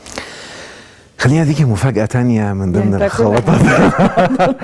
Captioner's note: laughs!